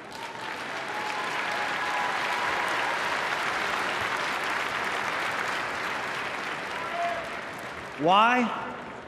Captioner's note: applause